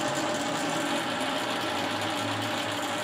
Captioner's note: loud machine rattling